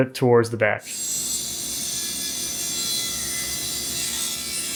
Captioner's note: electric saw whirring